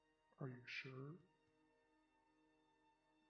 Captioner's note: none